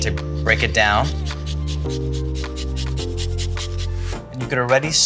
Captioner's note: garlic scraping